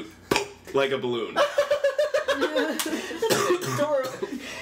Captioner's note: popping sound; giggles